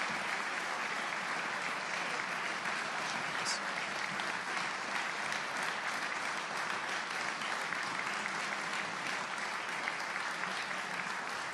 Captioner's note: applause